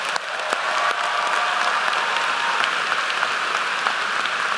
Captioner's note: applause